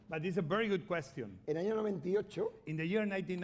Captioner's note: speaking spanish